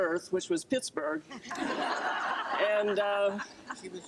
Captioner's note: group laughter